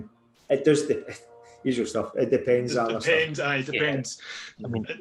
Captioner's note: laughs